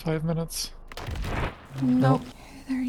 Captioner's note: warden noises